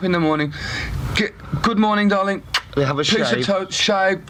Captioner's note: smooch